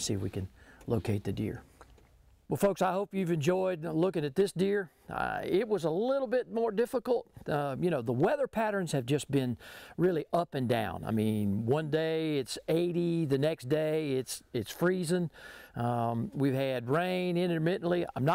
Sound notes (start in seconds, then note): none